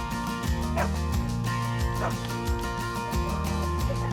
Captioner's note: dogs barking